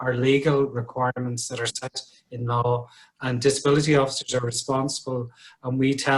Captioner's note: audio distorts